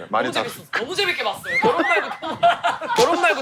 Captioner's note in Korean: 포복절도